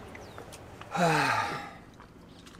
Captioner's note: groaning